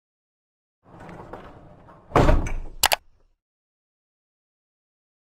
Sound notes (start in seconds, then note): 2.8 click